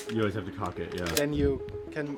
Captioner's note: gun cocks